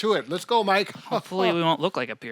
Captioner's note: laughs